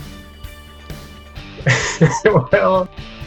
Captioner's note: laughing